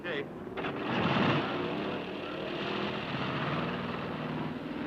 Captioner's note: engine revving